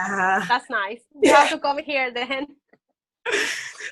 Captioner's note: laughs